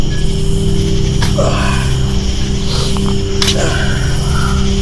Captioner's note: Larry grunting